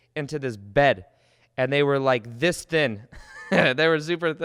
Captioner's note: chuckles